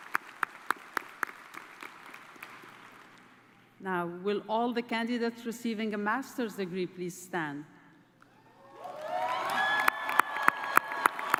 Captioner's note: cheers and applause